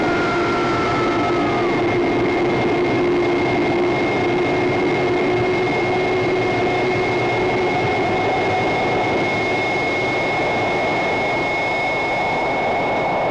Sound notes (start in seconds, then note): 2.4 rocket roaring